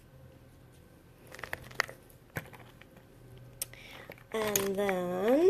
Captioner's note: clattering